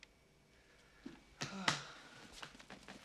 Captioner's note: sighs